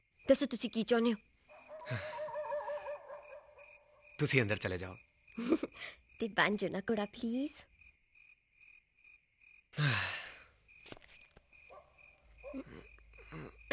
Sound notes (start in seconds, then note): 1.5 dog Barking; 9.7 sighs